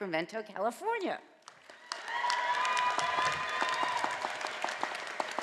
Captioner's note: audience applauding